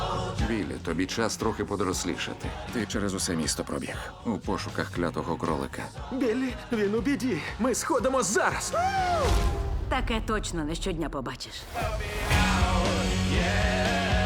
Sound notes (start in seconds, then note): 8.0 yells